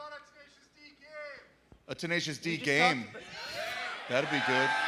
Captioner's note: cheers and applause